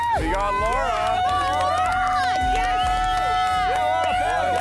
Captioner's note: all cheering